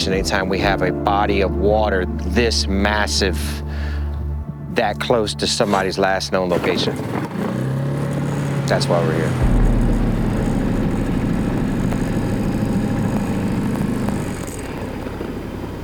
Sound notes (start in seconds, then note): 7.6 boat engine revving; 10.9 boat engine revving